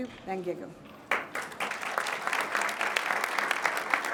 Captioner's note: crowd claps